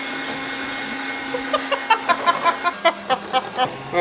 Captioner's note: laughing